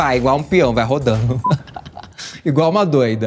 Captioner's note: laughter